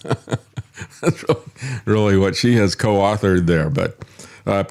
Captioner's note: laughs